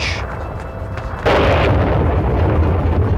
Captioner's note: rumbling